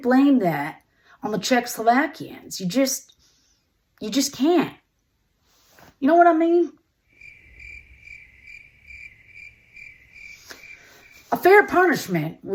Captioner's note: crickets sound effect